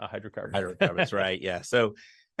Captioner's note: laughs